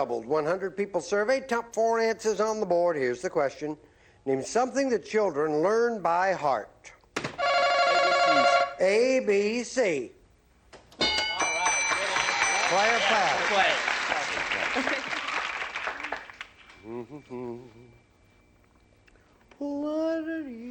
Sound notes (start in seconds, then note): 14.5 applause; 16.7 hums